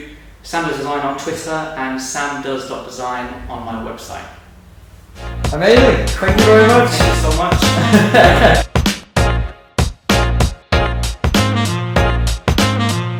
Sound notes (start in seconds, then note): 8.3 laughing; 10.4 upbeat music